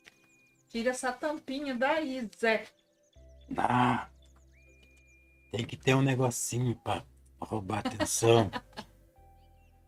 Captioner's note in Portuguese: risadas